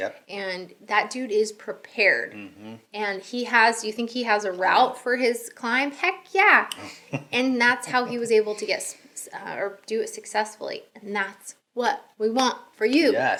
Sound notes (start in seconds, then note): 7.8 chuckling